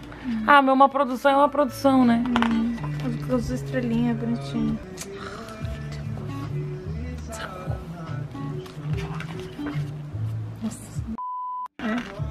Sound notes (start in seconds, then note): 7.2 whispers; 10.0 curses in fangirl